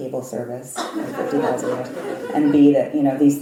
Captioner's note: laugh